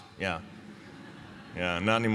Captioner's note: laughter